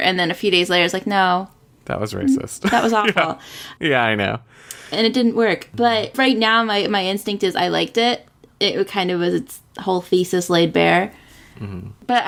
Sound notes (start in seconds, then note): 2.7 laughs